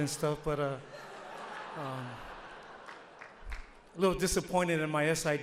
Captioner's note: audience laughs